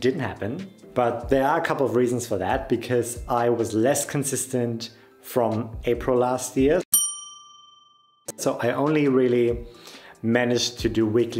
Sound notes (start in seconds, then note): 6.9 bell dings